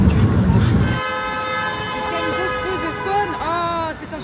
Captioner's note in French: Klaxon